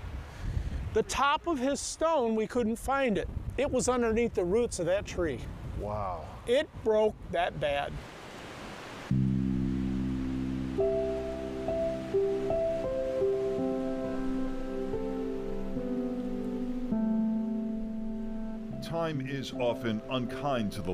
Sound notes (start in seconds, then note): 10.6 leaves rustling; 14.2 gentle piano music